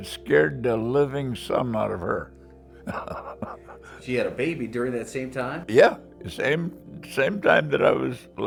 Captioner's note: laughs